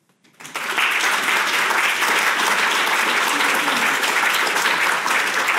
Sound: audience applauding

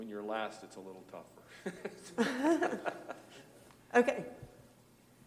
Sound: laughter

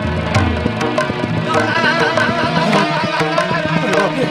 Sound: chattering Teeth

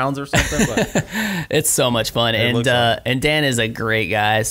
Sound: laughs

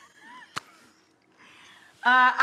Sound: laughing

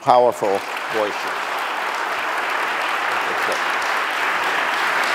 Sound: audience applause

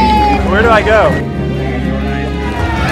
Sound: woman cheering

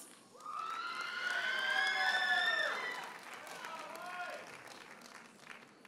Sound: audience cheers and applauds

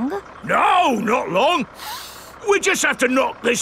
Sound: sniffs

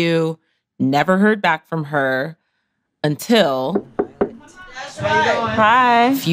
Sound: door knocking

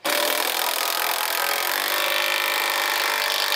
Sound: rattling, whirring

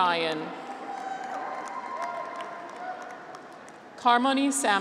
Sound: graduates cheer

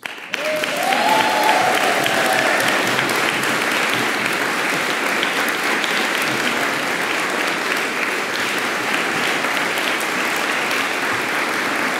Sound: applause

